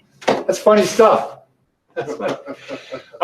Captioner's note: laughs